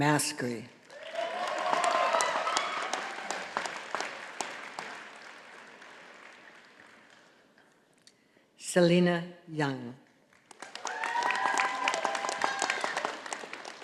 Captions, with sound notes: (audience applauding) Selina Yang. (audience applauding)